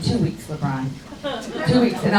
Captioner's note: crowd laughs